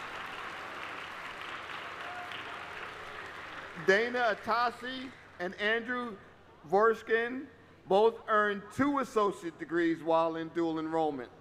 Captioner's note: applause